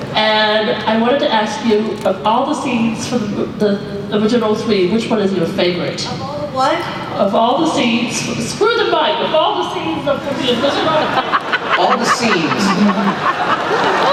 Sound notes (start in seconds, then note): 10.4 laughter